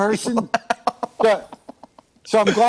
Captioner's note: laughter